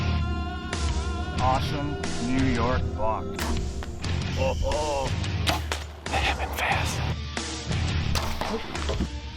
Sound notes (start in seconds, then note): 3.9 laughing; 6.7 rock music continues